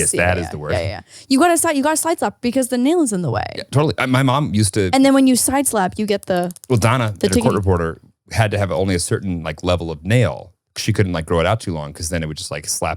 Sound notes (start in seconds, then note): 5.9 nails clicking